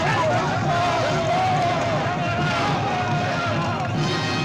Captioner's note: group yelling